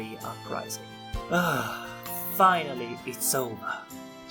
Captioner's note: exhales